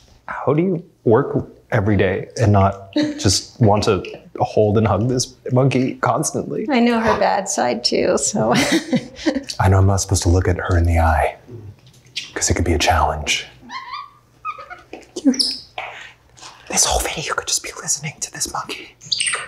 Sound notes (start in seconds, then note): 8.4 laughs; 13.6 monkey squeaks; 19.0 monkey squeaks loudly